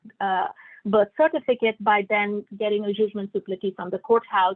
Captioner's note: non-english speech